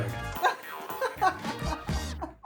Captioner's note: laughs